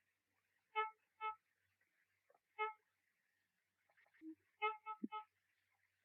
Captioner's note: horn honking